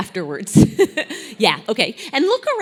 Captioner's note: laugh